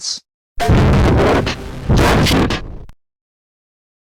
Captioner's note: Giga Shadow Half Real Dinosaur Windows XP Shutdown Sound